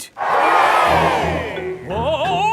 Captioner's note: crowd cheers